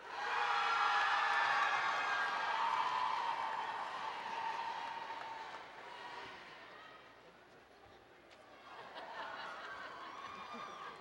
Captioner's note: cheering